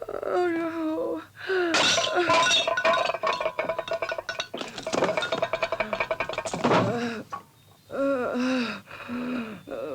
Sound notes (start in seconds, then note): 1.7 plate clatters; 7.1 Cleo groaning